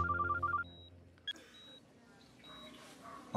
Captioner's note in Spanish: suena el celular